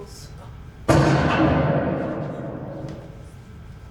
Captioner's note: gun shot